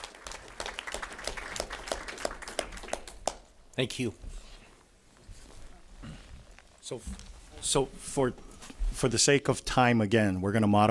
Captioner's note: applause